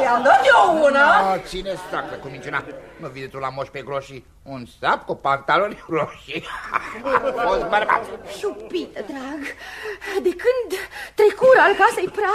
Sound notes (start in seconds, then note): 6.3 laughter